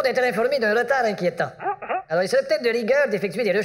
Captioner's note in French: Hum! Hum!